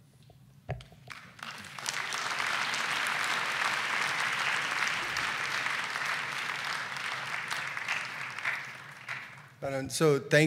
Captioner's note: applause